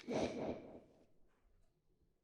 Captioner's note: woosh